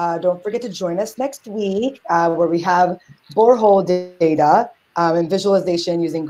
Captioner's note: audio skips